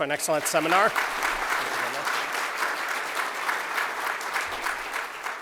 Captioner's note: applause